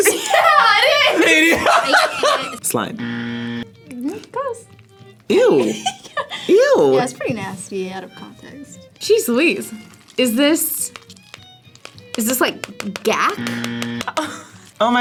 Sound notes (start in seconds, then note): 0.0 laughs; 3.0 buzzer; 13.4 buzzer; 14.0 React laughs